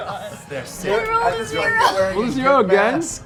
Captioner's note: laughs